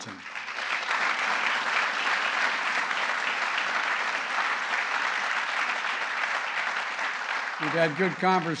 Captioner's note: applause